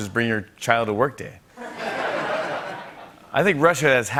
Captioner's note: laughter